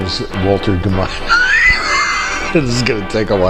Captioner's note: laughing